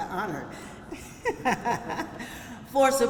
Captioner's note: laughter